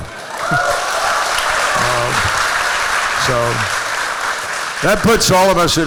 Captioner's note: applause